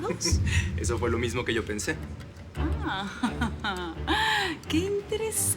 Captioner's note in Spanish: Risas